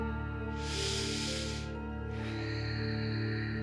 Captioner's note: calm music; inhales; exhales